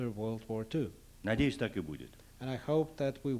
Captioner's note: non-english speech